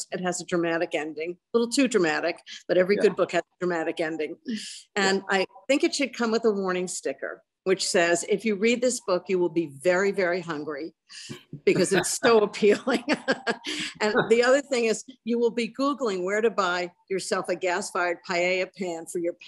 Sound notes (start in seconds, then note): 11.3 laughs